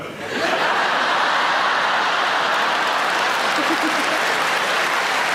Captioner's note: audience applauding